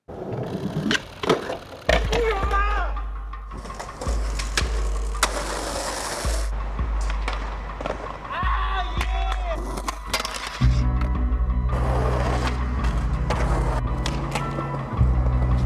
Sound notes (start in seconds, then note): 0.8 clattering; 2.1 cries out; 7.0 clattering; 9.5 clinking and clattering